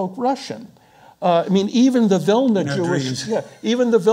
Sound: speaking foreign language

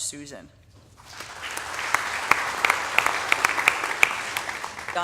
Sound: audience applauding

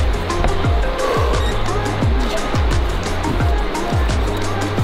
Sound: exhales deeply

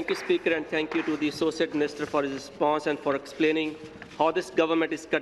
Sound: applause

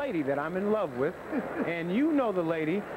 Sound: chuckling from the studio

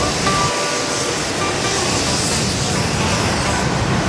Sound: whistle blowing

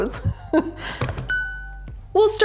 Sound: bell dings

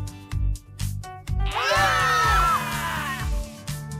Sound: scream

